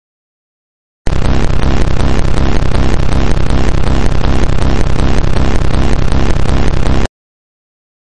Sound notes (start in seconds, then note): 1.0 sound of glitch error